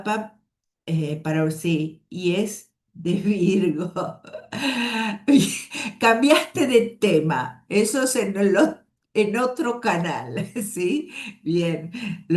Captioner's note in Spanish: risas